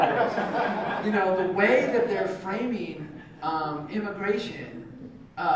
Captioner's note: laugh